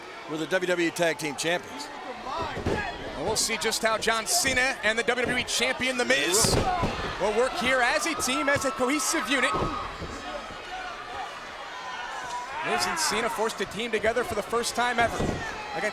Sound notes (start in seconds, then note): 2.2 feet thudding; 6.1 body thudding